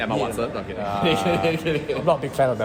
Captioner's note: laughs